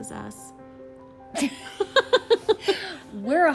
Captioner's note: both laugh